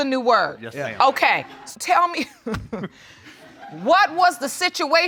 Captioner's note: laughs